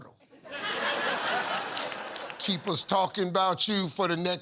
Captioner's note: laughter